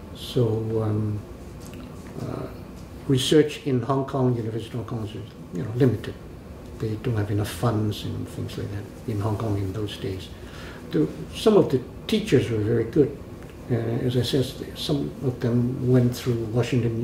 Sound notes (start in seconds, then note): none